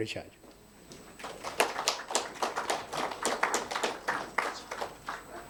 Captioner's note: attendees applauding